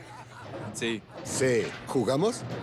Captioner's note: laughter